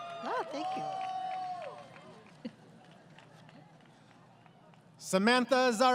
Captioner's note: applause